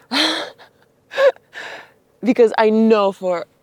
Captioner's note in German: lacht